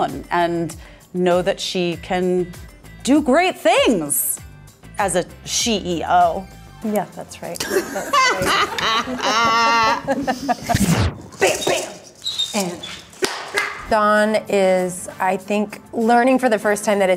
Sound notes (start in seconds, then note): 7.6 all laughing; 13.1 hands clapping